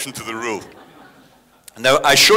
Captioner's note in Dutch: publiek lacht